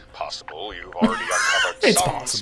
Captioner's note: laughing